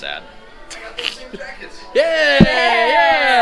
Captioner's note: male Voice